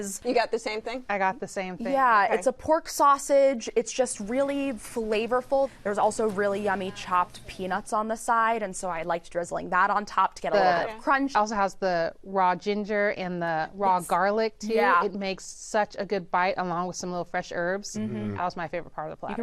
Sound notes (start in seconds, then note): none